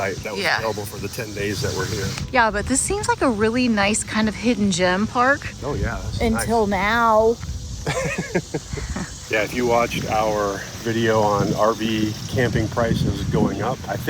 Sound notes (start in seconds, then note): 7.8 laughs